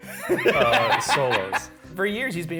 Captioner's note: laughs